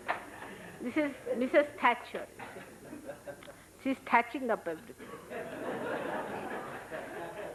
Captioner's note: laughter